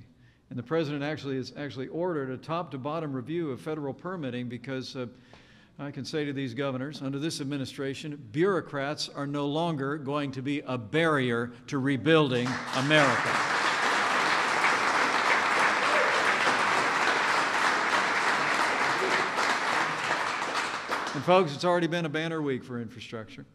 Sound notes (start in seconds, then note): 14.2 applause